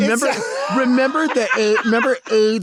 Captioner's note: Lady Bunny laughs